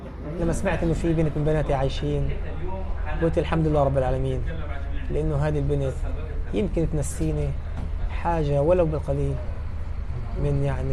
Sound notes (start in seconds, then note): none